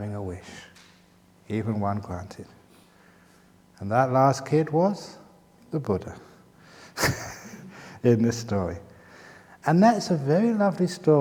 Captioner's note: chuckles